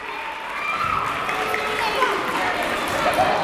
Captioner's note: clapping